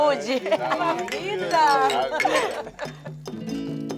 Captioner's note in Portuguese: risos